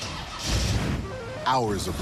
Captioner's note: engine starts